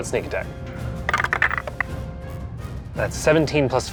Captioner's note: dice clinks